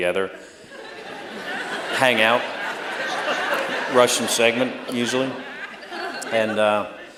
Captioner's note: laughter